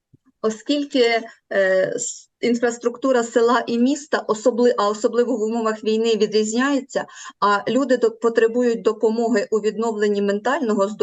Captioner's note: foreign Language